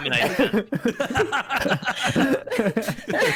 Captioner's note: hearty laughter; all laughter